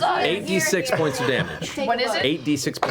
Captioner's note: laughs